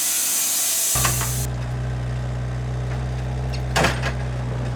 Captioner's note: engine rumbling